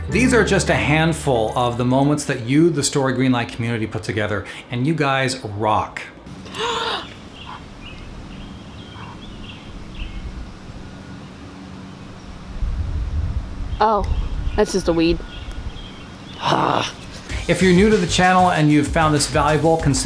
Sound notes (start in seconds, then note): 6.4 gasping; 6.4 birds chirping; 16.4 sighs